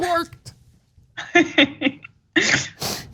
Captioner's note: laugh